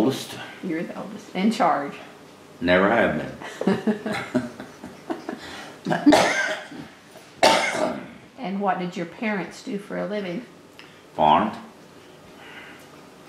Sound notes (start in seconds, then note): 6.6 laughter